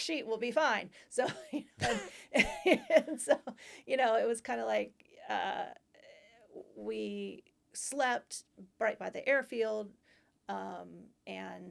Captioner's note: laughter